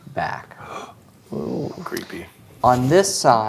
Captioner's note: gasps